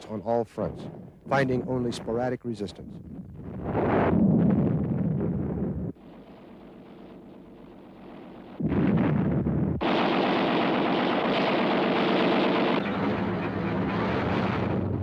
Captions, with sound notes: on all fronts, finding only sporadic resistance. (explosions) (gunfire)